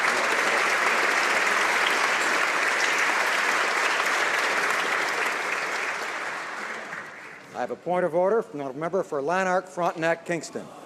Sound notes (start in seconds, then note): 1.7 applause